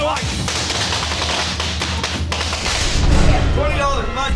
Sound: crackling

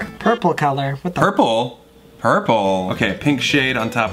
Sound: none

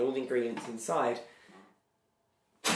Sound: flatulence

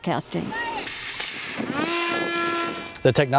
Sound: drone wails

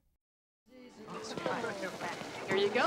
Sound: chattering

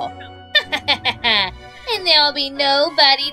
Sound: laughing maniacally

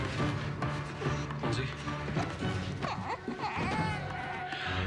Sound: baby fusses

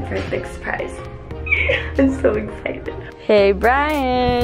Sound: laughs

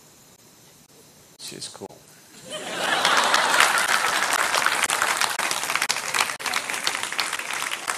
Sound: laughter

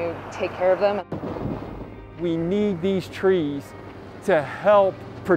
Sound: wind sounds

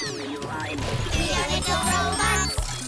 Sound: crash!

